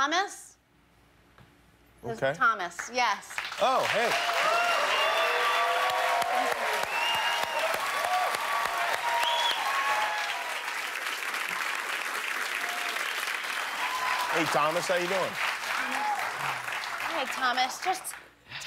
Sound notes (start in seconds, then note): 5.9 cheers and applause